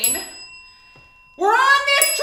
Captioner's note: bell